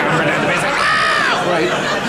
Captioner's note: screaming